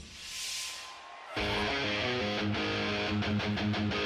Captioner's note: cheers and applause